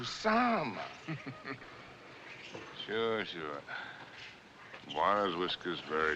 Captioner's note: chuckling